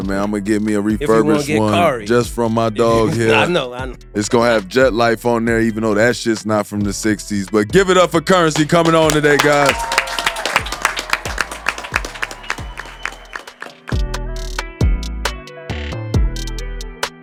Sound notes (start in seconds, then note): 8.8 audience applauding; 13.9 upbeat hiphop music